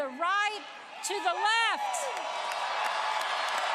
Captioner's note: applause